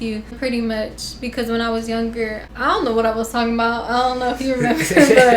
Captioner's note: laughter